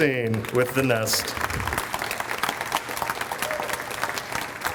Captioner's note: audience applauds